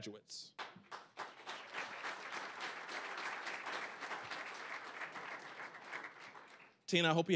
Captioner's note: applause